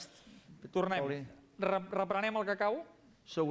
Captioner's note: non-english speech